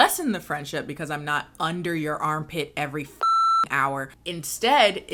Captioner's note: beep